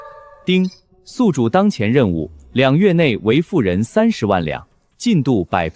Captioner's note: ding!